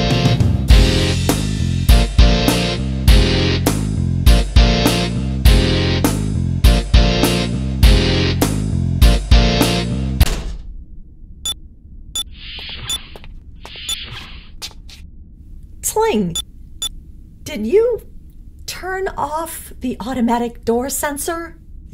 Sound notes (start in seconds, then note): 10.2 music stops; 10.2 crash; 12.1 datapad beeps